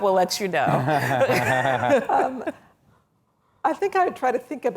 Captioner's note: laughing